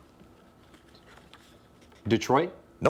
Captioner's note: whispering